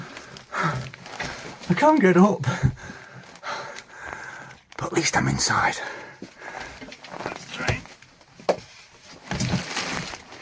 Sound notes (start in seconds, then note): 2.5 breathless; 4.7 whispers